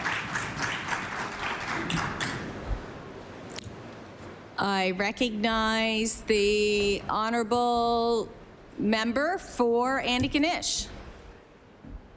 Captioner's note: applause